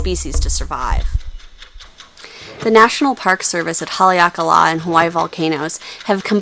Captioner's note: ticking clock